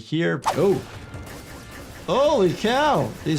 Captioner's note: gunshots booms